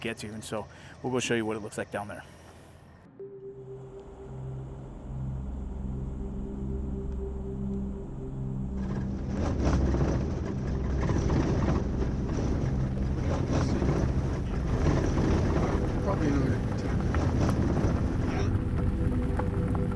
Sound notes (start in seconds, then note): 3.3 ♫ Eerie music plays ♫; 4.1 truck sounds on road; 19.7 ♫ Eerie music plays ♫